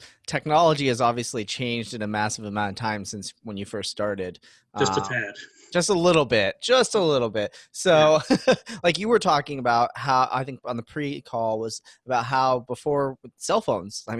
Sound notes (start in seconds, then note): 4.8 laughs; 7.8 laughs